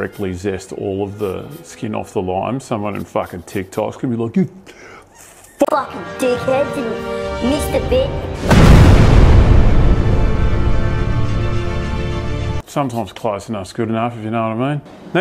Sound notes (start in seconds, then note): 8.3 boom